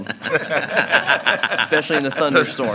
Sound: group laughs

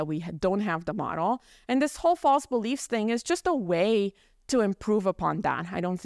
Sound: none

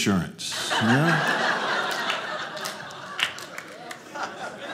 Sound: audience laughing

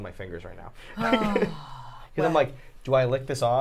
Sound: laughing; Safiya sighing

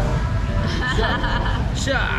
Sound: laughing

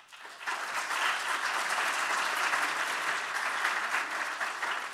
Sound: audience applauding

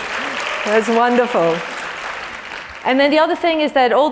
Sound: applause

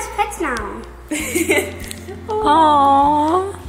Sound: laughing

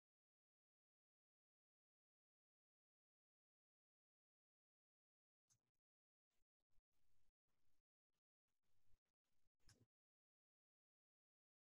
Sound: pause

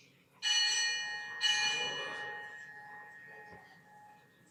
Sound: bell rings

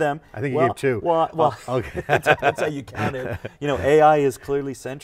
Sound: laughing

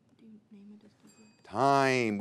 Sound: teammates whisper; bell rings

